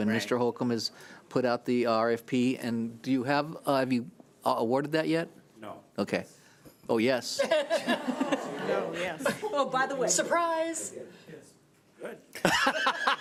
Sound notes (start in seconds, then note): 7.4 laughing; 10.8 laughing